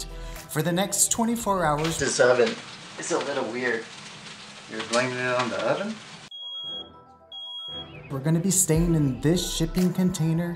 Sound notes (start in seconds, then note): 6.3 smoke detectors going off